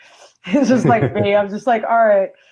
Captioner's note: laughs